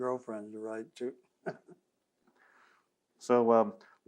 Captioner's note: laughs